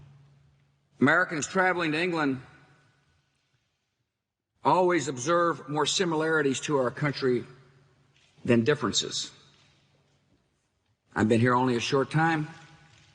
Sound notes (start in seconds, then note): none